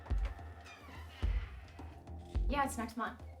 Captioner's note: dramatic music; door squeaking